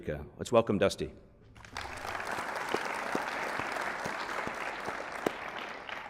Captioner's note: applause